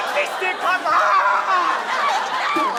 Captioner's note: screams